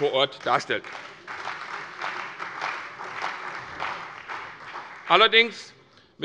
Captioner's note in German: Beifall bei der CDU und dem BÜNDNIS 90/DIE GRÜNEN